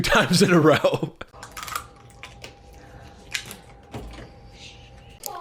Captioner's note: laughs; bottle crinkling